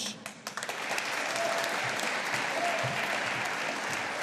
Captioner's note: audience applauding